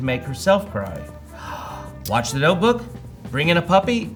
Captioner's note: gasps